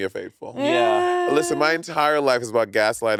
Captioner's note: exclaiming